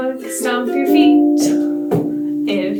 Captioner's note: feet stomping